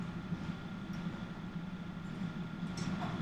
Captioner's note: none